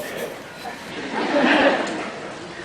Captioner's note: laughs